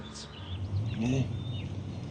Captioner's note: birds chirp